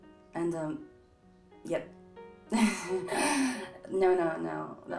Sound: laughing

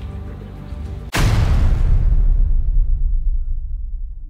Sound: metallic bang

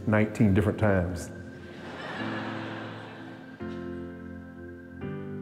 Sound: laughter

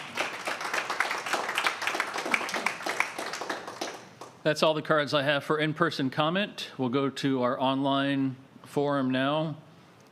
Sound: applause

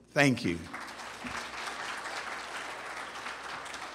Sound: applause

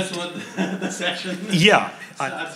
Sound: laughing

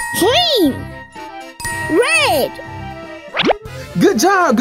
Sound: bell dings

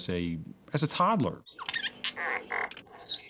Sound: beep Beep

